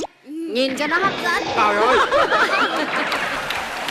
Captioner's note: laugh